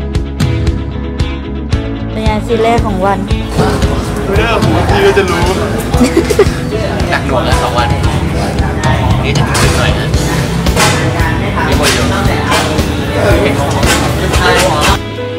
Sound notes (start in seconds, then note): 5.8 laugh